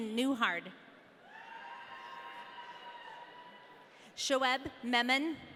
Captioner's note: audience cheering